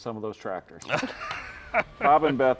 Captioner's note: laughing